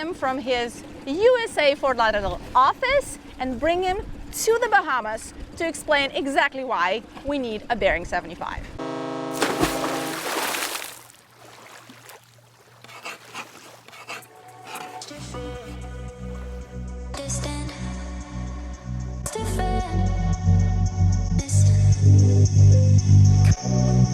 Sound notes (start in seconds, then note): 8.8 horn blares; 9.3 water splashes; 12.7 text scratching